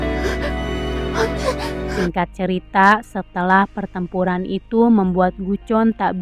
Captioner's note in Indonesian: menangis